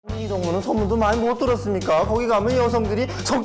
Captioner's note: Exaggerated NK accent